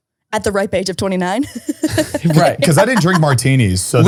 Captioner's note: laughs